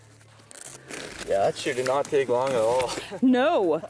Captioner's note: laughs